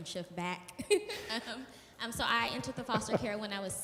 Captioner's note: laughs